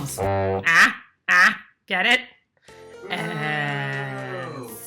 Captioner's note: jeering